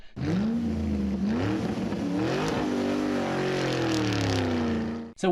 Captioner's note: sound of car revving